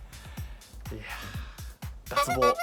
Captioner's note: sigh